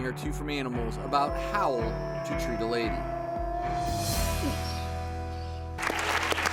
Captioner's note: wolf howling; audience clapping